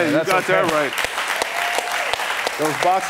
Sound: congregants clappinG

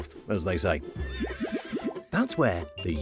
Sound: horse neighing

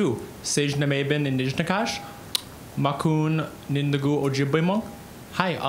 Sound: speaking Ojibwe

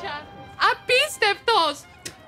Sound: non-english speech

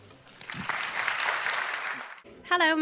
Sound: applause

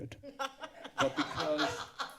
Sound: laughter

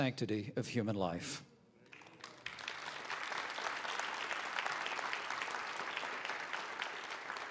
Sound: applause

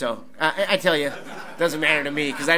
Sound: audience laughs

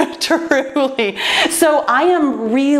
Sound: laughs

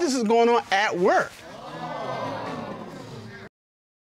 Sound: audience gasps

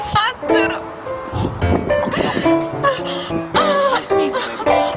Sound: sobbing

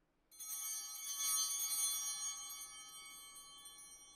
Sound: bells ringing

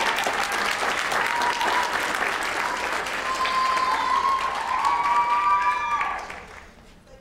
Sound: applause

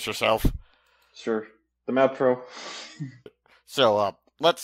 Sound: chuckles

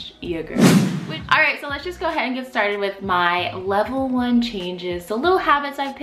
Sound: swoosh

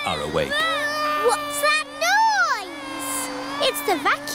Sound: vacuum cleaner whirring

